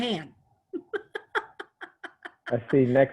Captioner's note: laughing